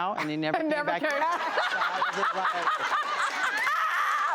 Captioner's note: laughter